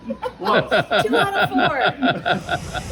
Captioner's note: laughing